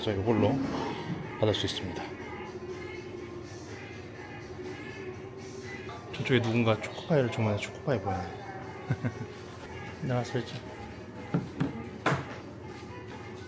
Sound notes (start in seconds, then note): 8.6 laughs